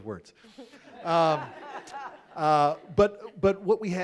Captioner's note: audience laughing